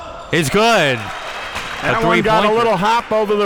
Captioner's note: audience clapping